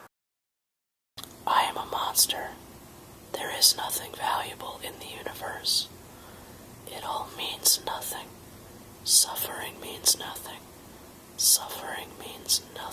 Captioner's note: whispering